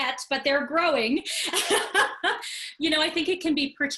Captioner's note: laughing